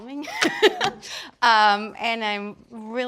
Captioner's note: laughs